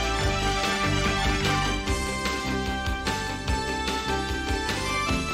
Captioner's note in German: beifall